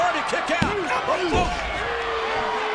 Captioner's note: body thuds; audience cheering